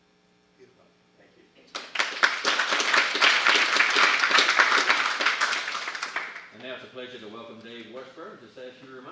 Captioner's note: applause